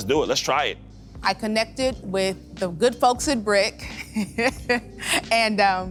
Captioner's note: chuckling